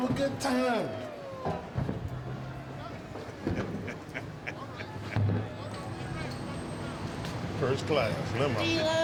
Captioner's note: laugh